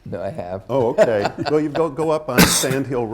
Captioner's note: laughs